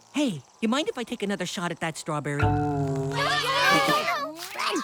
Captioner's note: giggles